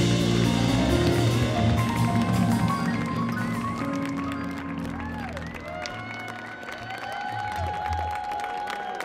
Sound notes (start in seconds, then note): 1.6 audience cheering